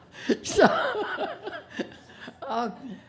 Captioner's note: laughing